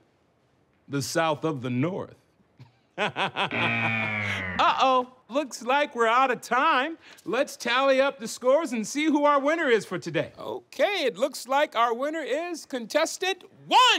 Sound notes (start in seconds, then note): 3.0 laughs; 3.4 buzzer distorts